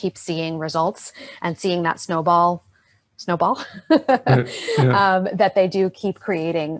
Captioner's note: laughs